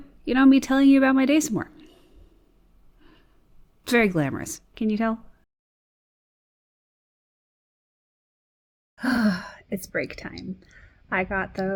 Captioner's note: sighs